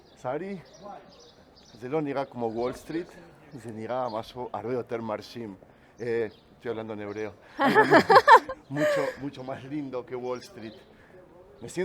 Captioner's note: speaks in Hebrew; laughs